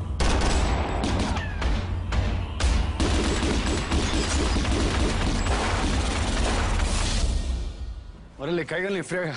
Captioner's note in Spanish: Disparos